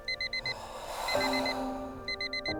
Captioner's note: sighs